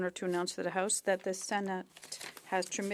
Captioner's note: speaking French